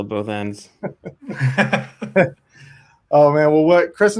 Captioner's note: laugh